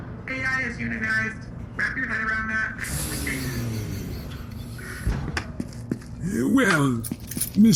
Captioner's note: morgue door slides shut